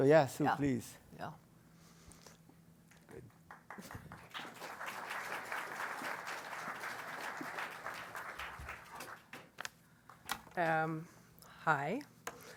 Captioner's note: applause